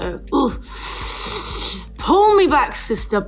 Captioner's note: inhales